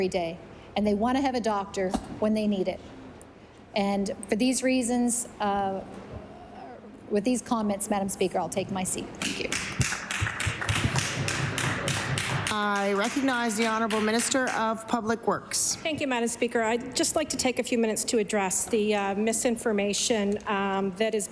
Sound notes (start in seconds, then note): 13.8 applause